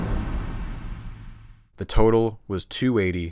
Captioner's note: thud